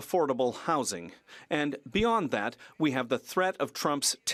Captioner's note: speaking French